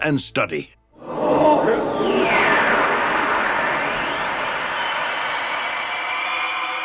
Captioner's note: crowd murmuring; dramatic music